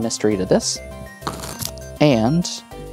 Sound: cards riffling

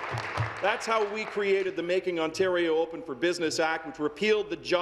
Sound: applause

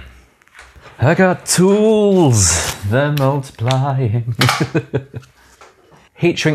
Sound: chuckles

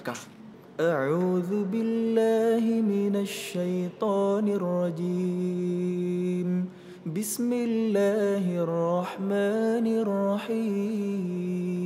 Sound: reciting quran

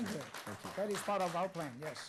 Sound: applause

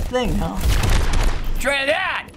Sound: firing

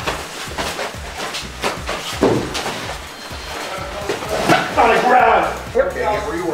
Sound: struggling, hitting, groaning

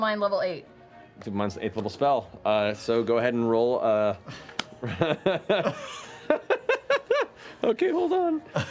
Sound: laugh

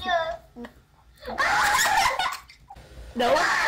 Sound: screams

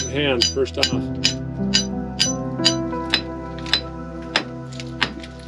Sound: chisel clinking

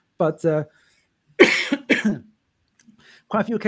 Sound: coughs

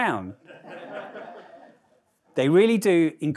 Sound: audience laughing

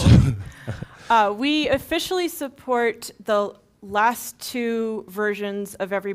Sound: laugh

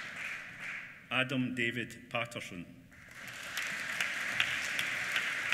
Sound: applause

